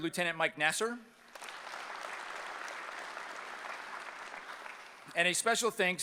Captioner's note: applause